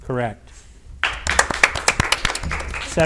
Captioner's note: audience applauds